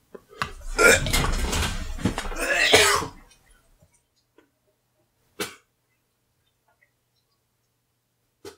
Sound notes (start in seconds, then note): 0.4 retches